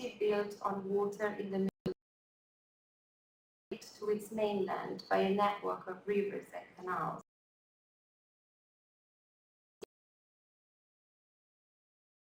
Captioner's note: audio lost